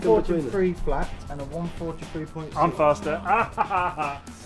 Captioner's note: laughs